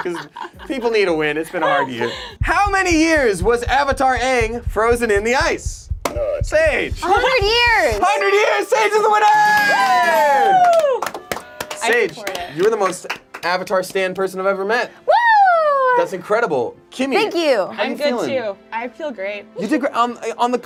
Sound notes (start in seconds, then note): 8.4 group cheers; 15.2 cheers